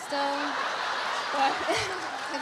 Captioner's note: audience laughs